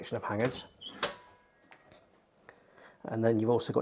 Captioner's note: wardrobe door clunking